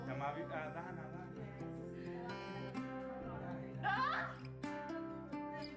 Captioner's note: in foreign language; male Voice